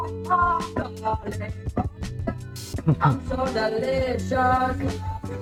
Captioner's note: laughs